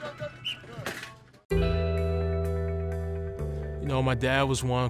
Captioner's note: whistle blowing